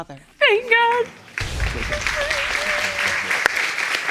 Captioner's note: crying